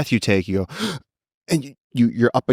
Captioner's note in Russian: задыхается